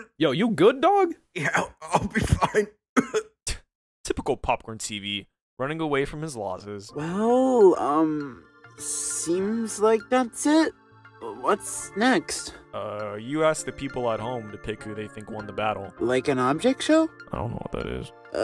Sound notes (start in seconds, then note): 2.9 cough